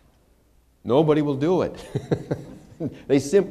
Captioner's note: laughter